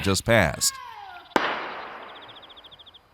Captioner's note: gunshot